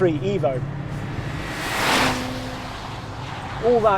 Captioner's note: car revving